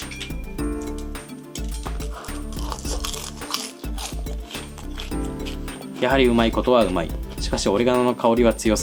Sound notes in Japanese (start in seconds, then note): 1.5 咀嚼音